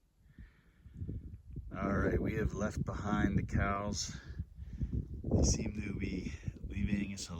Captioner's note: light wind noise